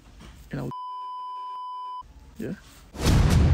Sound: beep

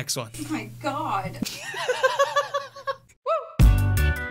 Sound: laughter

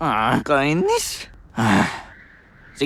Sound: sighs

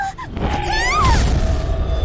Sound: bang

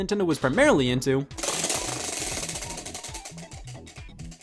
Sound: whirring

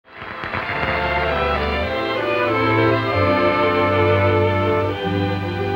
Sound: audience applauds; soft music

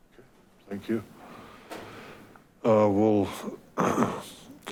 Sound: coughs

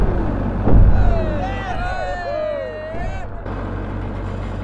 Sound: crowd cheering

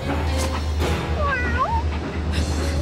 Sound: meowing

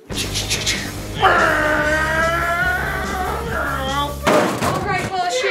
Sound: vrooming noises

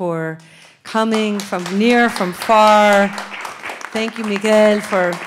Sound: audience applauds

